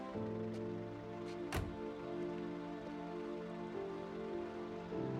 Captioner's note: car door closes